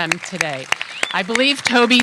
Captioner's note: applause